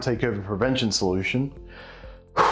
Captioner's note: breathes